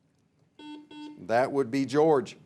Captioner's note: buzzer beeps